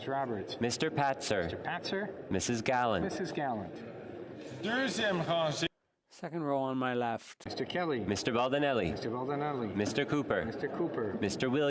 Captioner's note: calling of recorded vote